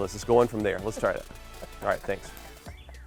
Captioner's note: camera man laughing